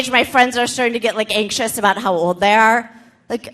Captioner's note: none